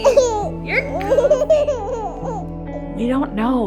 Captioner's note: giggles